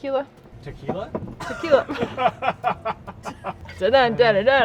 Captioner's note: laughing